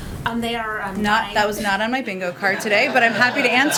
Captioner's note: laughter